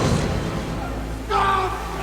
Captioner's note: concrete crumbling